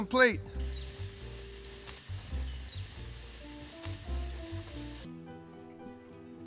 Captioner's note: slow jazz music; faint birds chirping